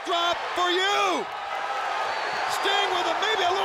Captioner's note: audience cheers